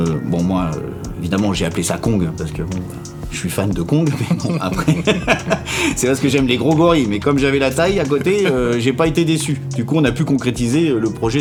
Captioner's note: laughs